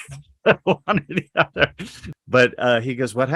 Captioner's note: laughs